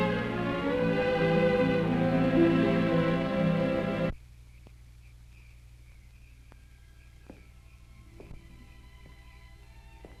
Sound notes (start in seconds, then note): 5.0 insects chirping; 7.5 soft orchestral music